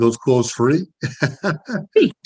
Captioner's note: laughs